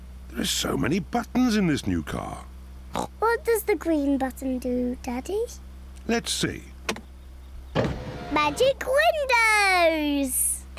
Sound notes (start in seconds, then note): 2.9 oinks